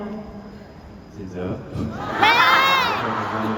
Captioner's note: laughs shyly